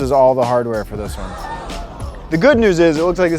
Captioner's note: gasps